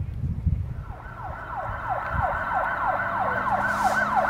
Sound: sirens

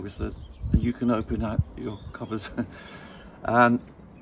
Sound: chuckles

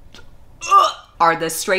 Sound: vomiting sound

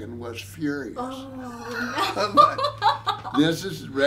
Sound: both laughing

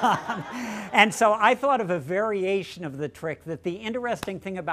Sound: laughter

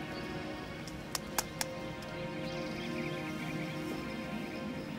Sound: slapping loudly

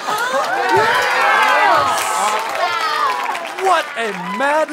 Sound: clapping

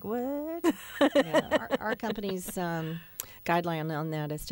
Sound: laughter

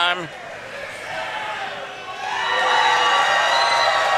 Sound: crowd cheers

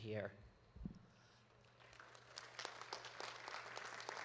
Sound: audience claps

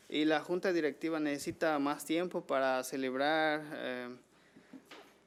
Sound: man speaking foreign language

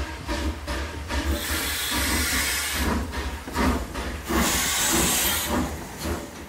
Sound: train chugging noises

